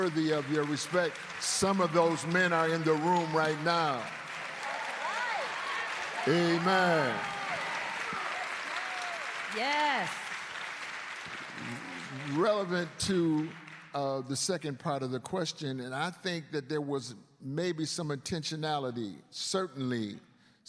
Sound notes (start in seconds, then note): 1.9 cheers and applause